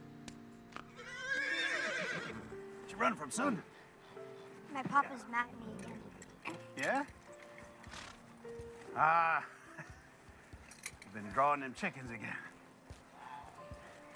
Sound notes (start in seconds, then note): 2.8 soft music playing; 2.8 horse whinnies